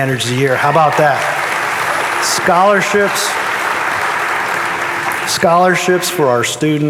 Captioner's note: audience applauding